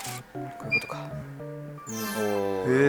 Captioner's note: click